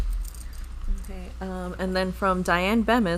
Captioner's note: bag zipping